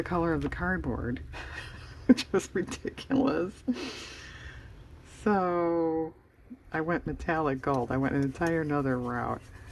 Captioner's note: laughs